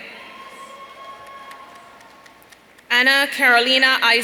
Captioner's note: audience cheering